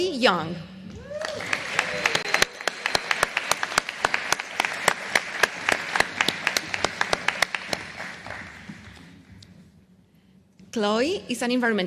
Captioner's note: applause